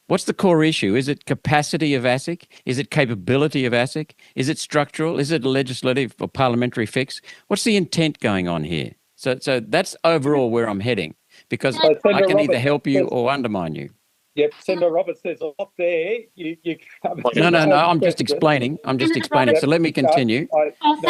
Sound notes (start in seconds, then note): 16.5 chuckling